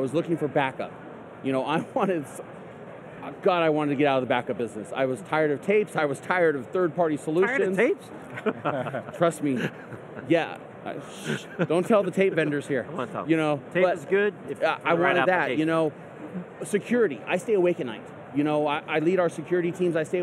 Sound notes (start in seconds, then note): 8.2 laughs